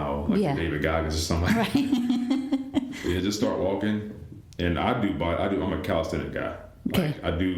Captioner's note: laughter